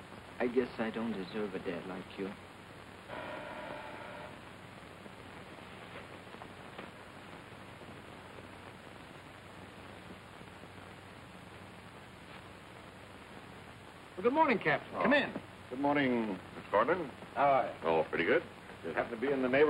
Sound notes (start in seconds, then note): 3.1 buzzer